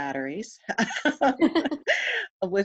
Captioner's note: laughs